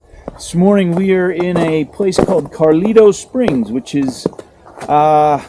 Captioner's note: snow crunching